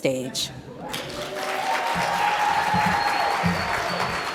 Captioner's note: audience applauds